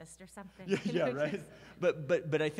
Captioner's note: laughs